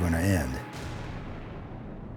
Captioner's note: boom